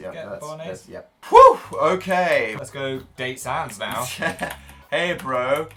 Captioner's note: laughs